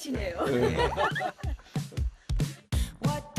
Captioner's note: laughs